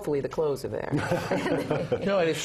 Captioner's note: laugh